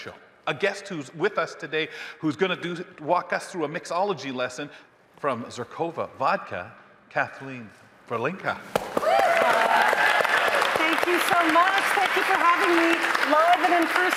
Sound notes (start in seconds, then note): 8.8 audience applauding; 8.8 audience cheering